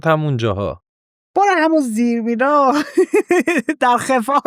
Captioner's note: laughs